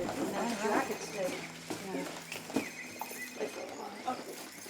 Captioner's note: phone ringing